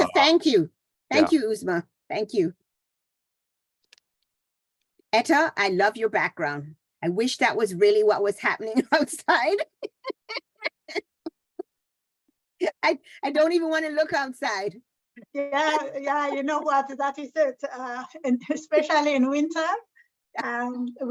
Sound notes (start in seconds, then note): 11.5 laughter